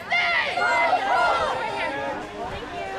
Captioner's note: crowd